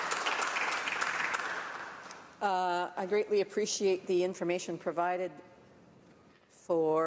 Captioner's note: some Applause